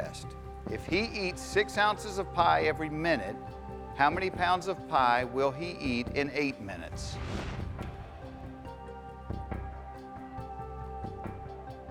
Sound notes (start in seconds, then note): none